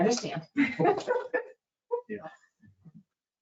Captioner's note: chuckling